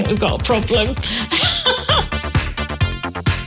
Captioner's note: laughing